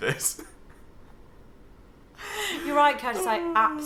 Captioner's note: laughing